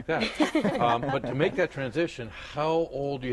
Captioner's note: laughter